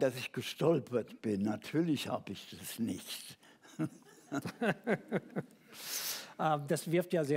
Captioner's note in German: Gelächter